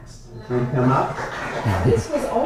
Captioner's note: applause